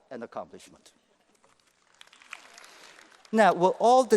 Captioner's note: applause